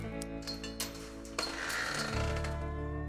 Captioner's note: gate opening